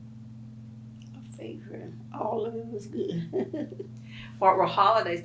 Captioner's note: laughs